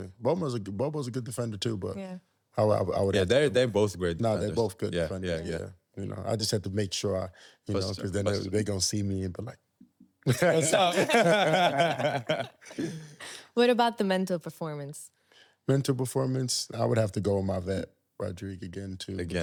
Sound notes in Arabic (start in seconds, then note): 10.2 ضحك